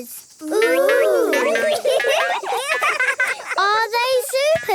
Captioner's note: laughing